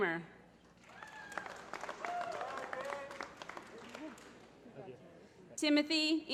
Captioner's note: applause